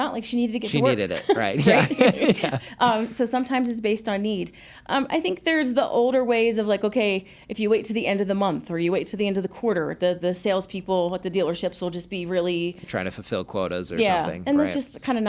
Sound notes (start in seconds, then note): 2.3 chuckle